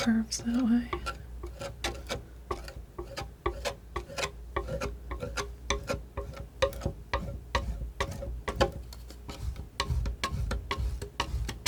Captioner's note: tapping